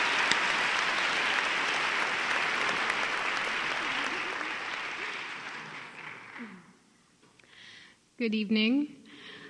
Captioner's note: applause